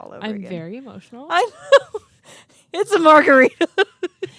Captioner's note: laughs